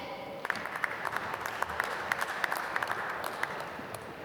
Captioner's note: applause